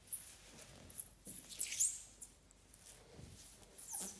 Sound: floor squeaks

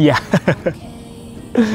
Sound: chuckles

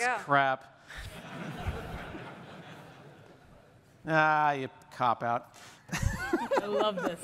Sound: laughter

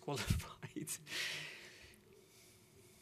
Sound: chuckles

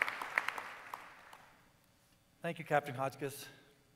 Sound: applause

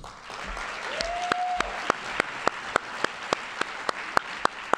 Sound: audience applauding

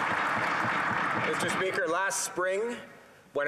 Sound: applause

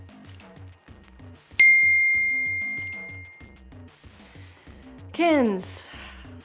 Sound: phone notification dings

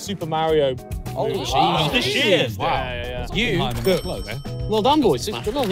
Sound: everyone exclaiming

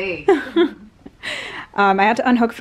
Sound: laughing

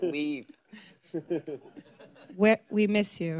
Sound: laughter

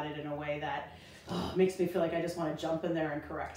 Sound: growls

